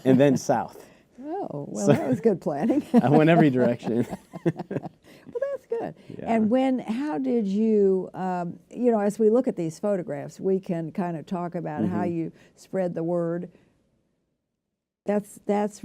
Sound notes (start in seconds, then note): 2.5 laughter